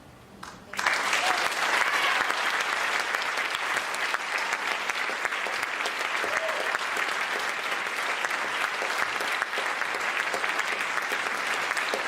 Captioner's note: applause